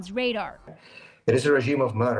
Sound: speaking Foreign Language

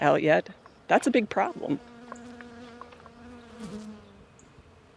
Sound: insect buzzing

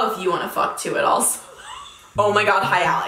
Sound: laughs

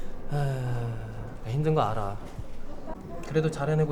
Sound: sighing

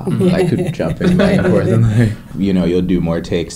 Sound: laughter drowns out speech

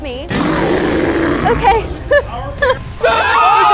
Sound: roaring; screaming

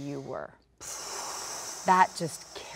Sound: sighs

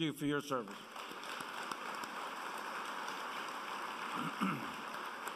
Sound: applause

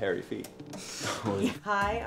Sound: all laugh

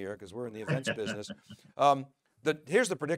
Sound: chuckling

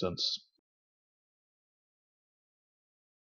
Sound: silence

